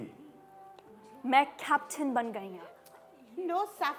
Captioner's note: broken Punjabi